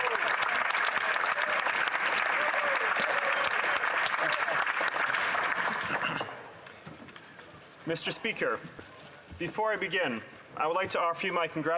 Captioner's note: some Applause